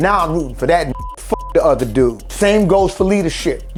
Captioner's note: beep